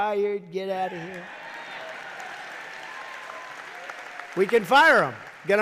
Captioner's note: applause